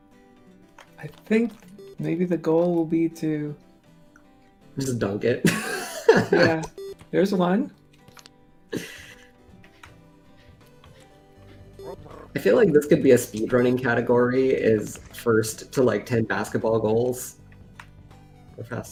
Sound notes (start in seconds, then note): 5.5 laughs